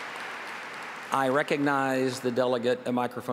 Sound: applause

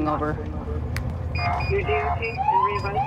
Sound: sirens

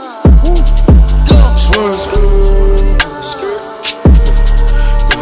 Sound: skrrt, skrrt

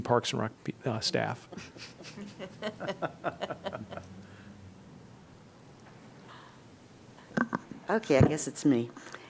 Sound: laughter

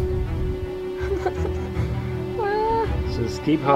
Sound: intense music; whimpers

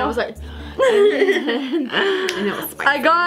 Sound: laughing

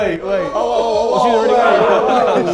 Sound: Sidemen exclaiming

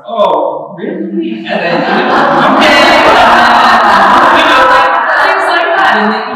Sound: laughter

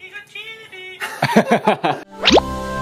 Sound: laughing

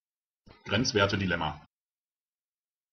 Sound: fast Pronunciation

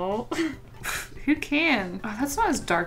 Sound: scoffs

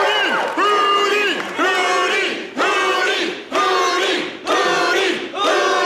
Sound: crowd cheering; crowd

